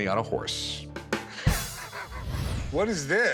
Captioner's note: chuckles